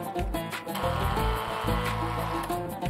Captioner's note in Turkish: Otomatik kapı zili çalar